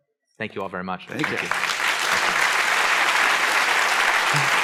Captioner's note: applause